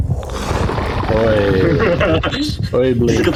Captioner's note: in a broken Sydney accent